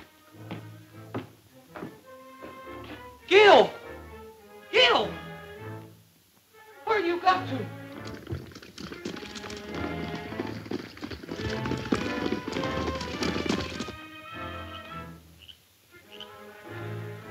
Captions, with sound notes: - Gil, Gil, where you got to? (horse hoof beats) (dramatic music)